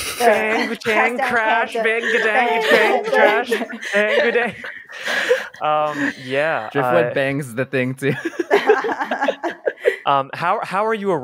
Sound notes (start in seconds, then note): 1.8 laughter